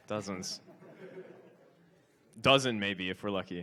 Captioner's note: audience laughs